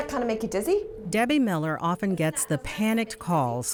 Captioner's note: voiceover